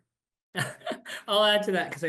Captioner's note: chuckles